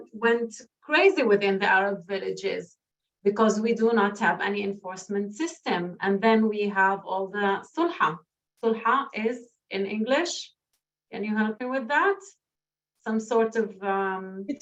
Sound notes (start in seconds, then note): 8.0 non-english speech